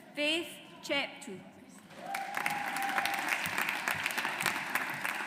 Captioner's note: audience applauds